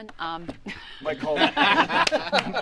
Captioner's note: laughter